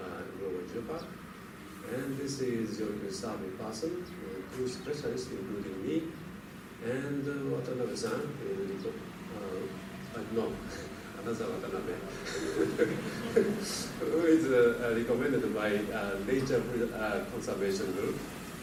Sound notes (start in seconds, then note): 7.2 laughter